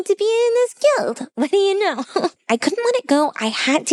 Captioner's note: laughs